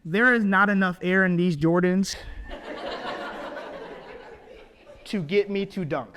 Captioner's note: audience laughs